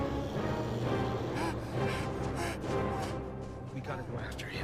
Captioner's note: Ryder huffing